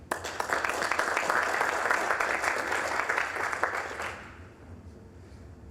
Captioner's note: applause